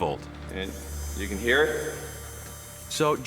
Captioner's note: motor buzzing